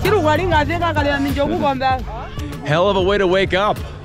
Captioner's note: villager speaking in a foreign language